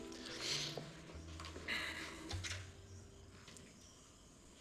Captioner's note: sighs